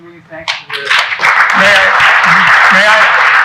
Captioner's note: audience applauding